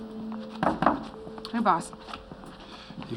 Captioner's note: knocking